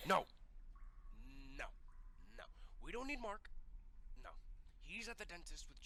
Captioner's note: none